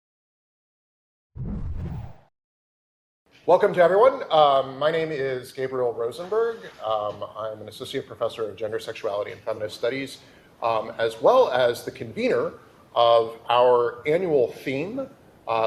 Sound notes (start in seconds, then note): 1.5 slide whooshing softly